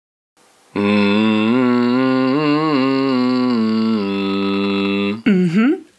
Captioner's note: humming